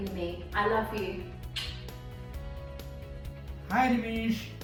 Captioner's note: smacks lips